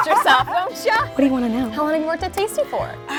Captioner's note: laughs